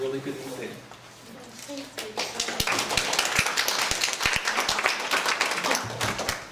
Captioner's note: clapping